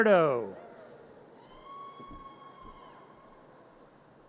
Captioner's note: audience cheers